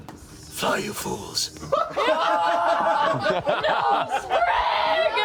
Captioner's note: yelling